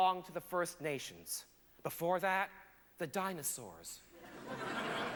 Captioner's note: laughter